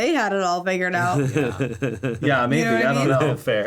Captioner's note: chuckling